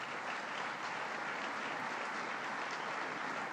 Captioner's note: applause